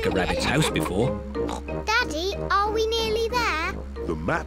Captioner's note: snorts